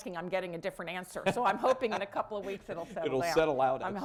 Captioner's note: laughter